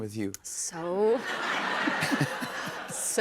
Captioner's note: chuckles